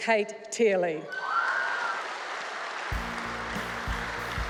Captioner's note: cheering and applause